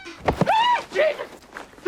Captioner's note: gasps